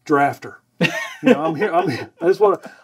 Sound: laughing

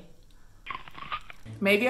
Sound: chomp

